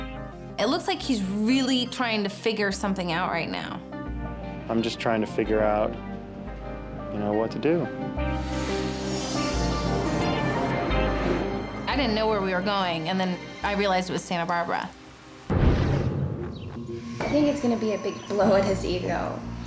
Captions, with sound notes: It looks like he's really trying to figure something out right now. - I'm just trying to figure out what to do. (gentle suspenseful music continues) - I didn't know where we were going, and then I realized it was Santa Barbara. (graphics whoosh) - I think it's gonna be a big blow at his ego